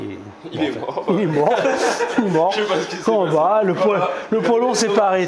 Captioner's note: laughs